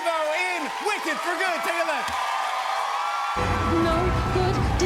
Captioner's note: cheers and applause continue